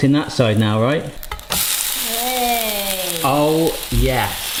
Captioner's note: pancake sizzling